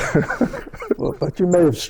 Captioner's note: laughter